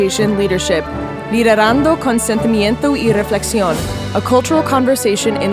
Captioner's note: speaks in foreign language